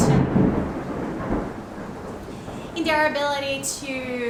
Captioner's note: thunder